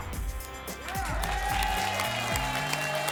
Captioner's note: applause and cheering